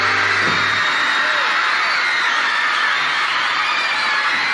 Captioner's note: women screaming